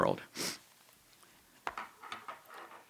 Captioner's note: sniffs